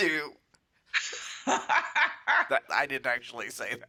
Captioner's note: cackles